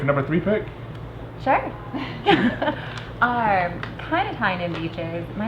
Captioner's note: everyone laughing